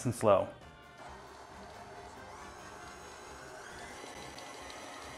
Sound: mixer whirring

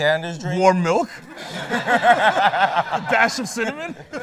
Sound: laughter

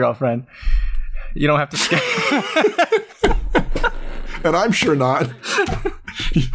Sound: laughter

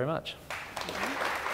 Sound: audience applause

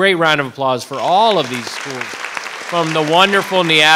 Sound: audience applauding

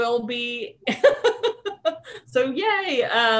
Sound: laughing

